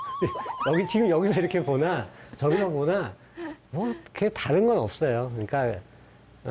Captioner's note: laughs